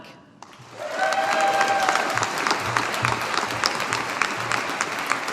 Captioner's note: audience applauding